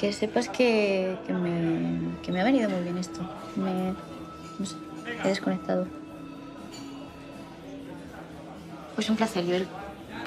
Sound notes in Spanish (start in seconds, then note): none